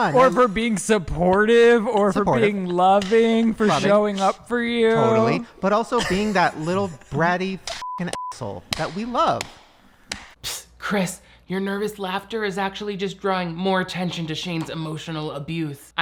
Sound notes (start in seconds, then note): 7.8 beep; 10.1 hands clap